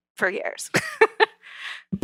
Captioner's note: laugh